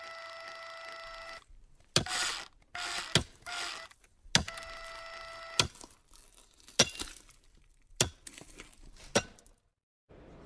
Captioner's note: circular saw; chopping meat